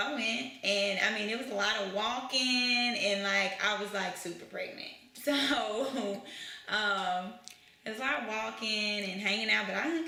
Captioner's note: laughs